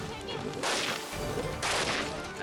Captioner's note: rifle blasts